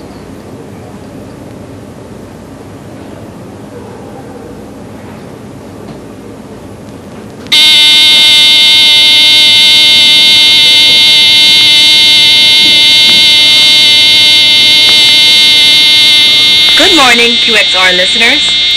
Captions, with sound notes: [alarm clock buzzing] [Leonor over the radio] Good morning QXR listeners.